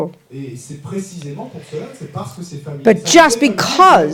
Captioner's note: French